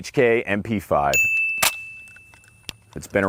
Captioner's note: ringing